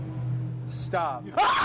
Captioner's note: screams